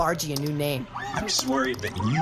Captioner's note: keys clicking on a keyboard